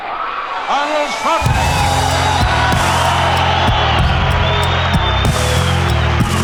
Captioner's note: crowd cheering